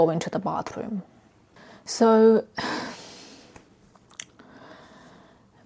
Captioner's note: sighs